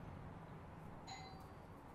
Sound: doorbell rings

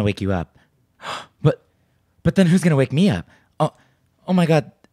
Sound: gasps

